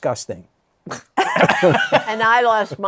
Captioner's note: laughter